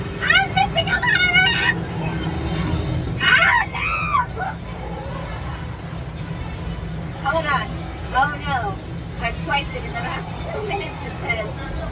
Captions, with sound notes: I'M MISSING A LOT ACK AH NO [LAUGHS] HOLD ON OH NO I'VE SWIPED IT IN THE LAST TWO MINUTES IT SAYS